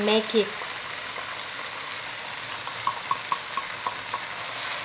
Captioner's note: oil popping